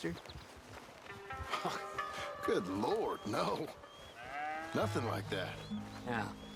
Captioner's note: chuckles